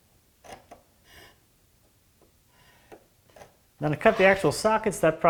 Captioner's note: knife on wood scratching